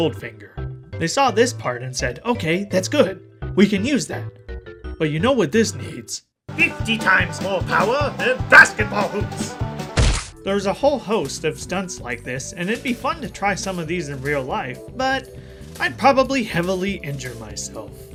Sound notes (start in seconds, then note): 10.0 very safe landing sound effect.wav